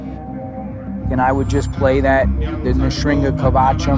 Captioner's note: speaking foreign language